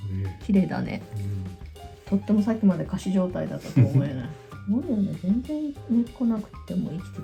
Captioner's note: laughs